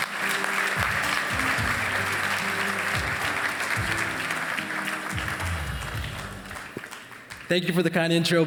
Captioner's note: applause